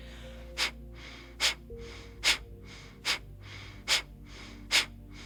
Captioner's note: rapidly exhaling